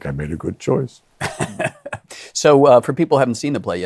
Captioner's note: laughs